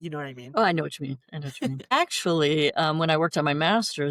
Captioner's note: laughter